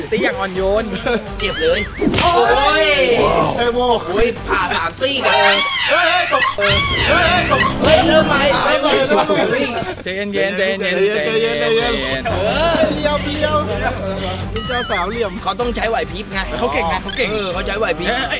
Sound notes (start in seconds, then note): 0.8 chuckles; 2.4 hit; 5.2 screams